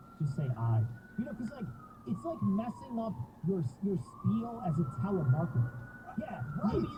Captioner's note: siren approaching